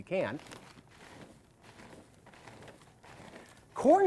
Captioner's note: crunchy sound